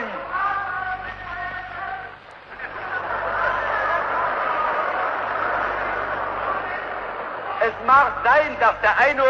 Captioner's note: laughter, shouts